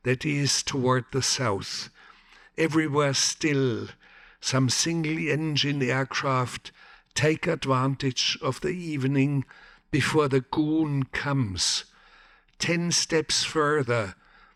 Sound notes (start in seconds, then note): none